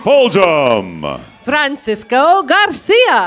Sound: cheers and applause

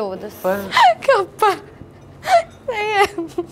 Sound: giggles

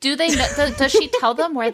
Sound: laughing

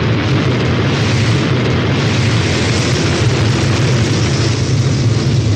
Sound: rocket noise

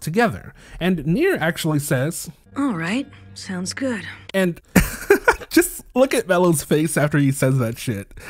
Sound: laughter

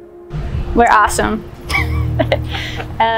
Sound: laughing

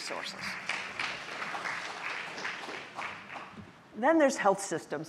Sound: audience applauding

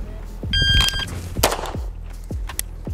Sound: gentle upbeat music; signal chiming; gun clicking; gun firing

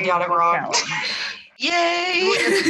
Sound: laughing

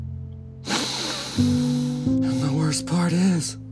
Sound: sobbing; sniff

